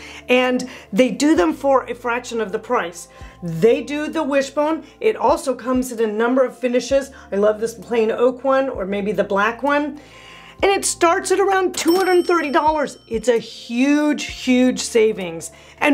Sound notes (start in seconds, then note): 11.8 bell rings